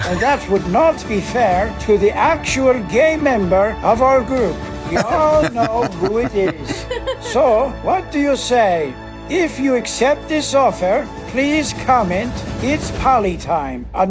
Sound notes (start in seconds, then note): 4.9 Rob laughs; 4.9 laughs